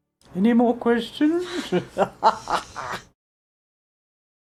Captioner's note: laughs